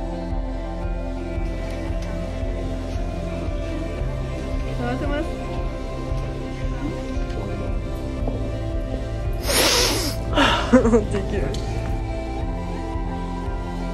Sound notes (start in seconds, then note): 9.4 sharp inhale; 10.4 laugh